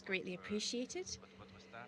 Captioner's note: speaking French